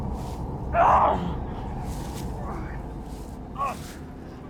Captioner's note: Arawn groaning